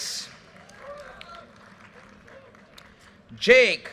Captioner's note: audience cheers and applause